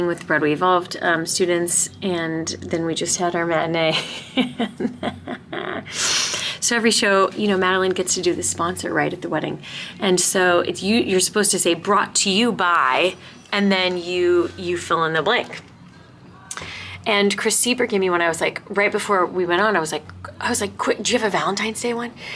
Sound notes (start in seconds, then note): 3.8 laughing